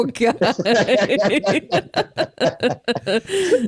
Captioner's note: everyone Laughs